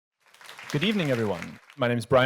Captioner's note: audience clapping